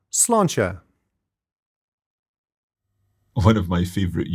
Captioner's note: speaks in foreign language